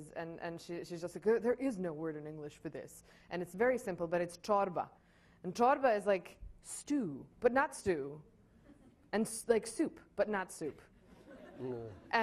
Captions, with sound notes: and she's just like, "There is no word in English for this," and it's very simple, but it's [speaks in foreign language] and [speaks in foreign language] is like stew, but not stew and like soup, but not soup. [laughing]